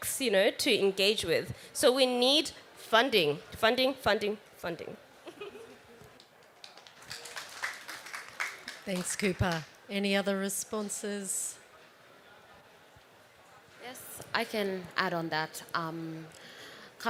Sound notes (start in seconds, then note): 6.2 applause